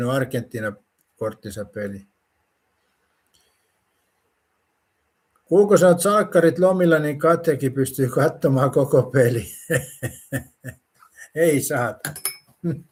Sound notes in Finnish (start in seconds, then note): 9.4 naurua